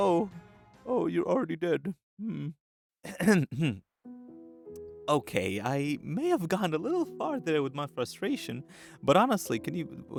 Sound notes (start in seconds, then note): 3.0 clears throat